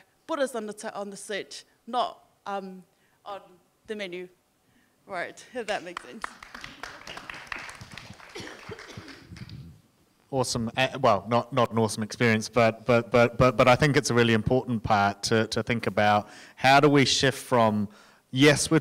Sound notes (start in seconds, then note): 5.9 audience applauding